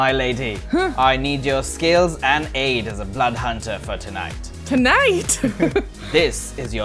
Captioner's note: laughter